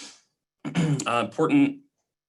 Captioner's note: clearing throat